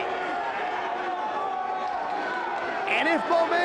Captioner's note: audience cheers